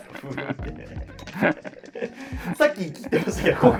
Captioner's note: laughing